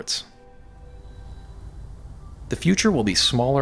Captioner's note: whooshing air